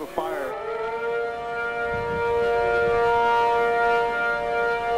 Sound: emergency sirens blaring

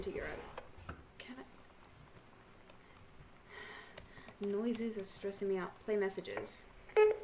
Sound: sigh

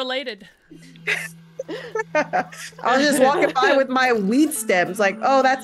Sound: laugh

